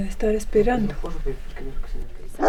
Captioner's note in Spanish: ladrido de perro